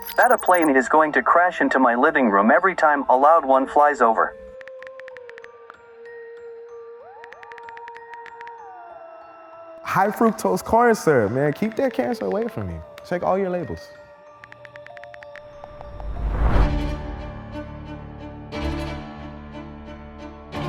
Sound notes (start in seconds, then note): 4.8 typing sounds; 16.8 suspenseful music